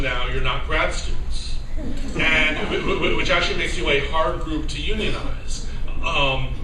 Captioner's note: laugher